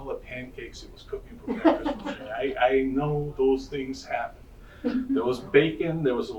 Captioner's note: audience laughing